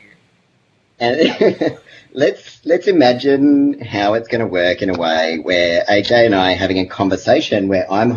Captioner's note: laughs